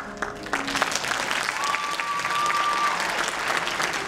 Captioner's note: applause